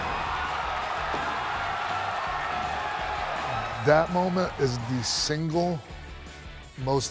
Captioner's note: applause